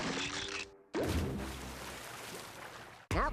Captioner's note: water splashing